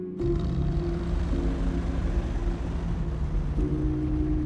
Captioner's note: engines rumbling